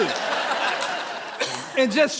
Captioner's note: audience laughing